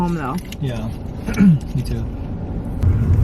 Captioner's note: coughing